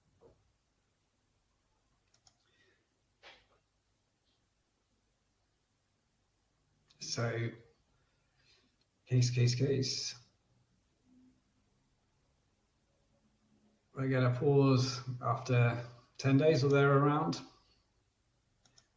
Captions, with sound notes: (clicks mouse) So, case, case, case. We're gonna pause after 10 days, or there around.